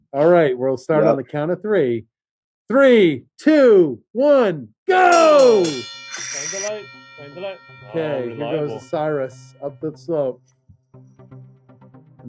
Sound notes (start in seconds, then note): 5.0 bell ringing